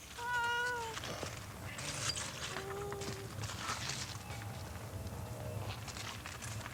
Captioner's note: nature sounds